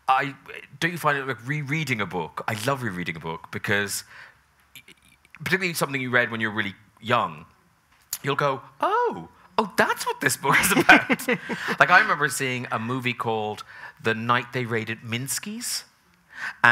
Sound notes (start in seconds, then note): 10.5 both chuckling